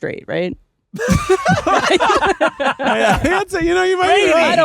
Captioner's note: everyone laughing